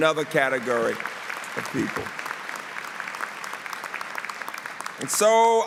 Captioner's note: applause